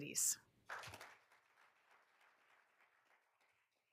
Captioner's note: all applauding